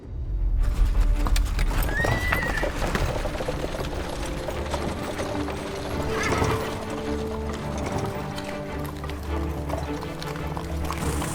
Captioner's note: hoofbeats, neighing; tense music